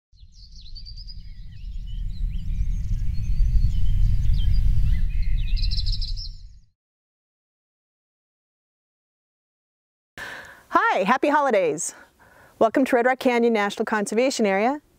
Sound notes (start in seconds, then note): 0.2 birds chirping